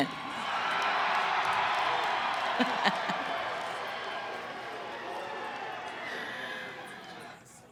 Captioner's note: cheering & applause